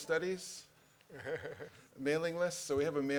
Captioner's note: laughter